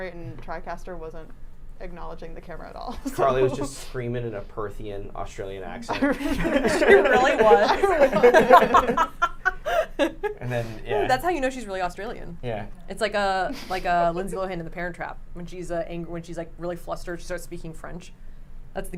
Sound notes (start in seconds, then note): 5.9 laughs; 7.8 everyone laughs